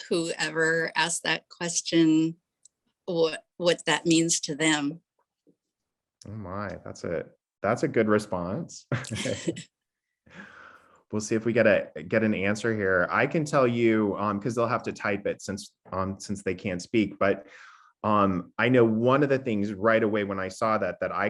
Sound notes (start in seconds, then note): 8.9 chuckling